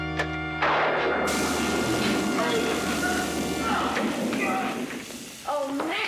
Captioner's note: sizzling; lightning crackles; groans